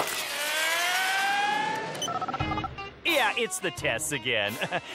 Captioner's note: dialling beeps